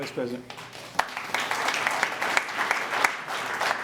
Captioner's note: applause